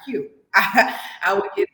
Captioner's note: laughs